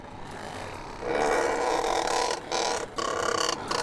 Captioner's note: bird chortling